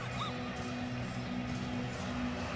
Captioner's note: laughs